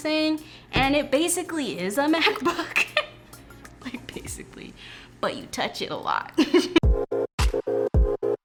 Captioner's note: laughs